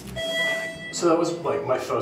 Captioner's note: elevator beeps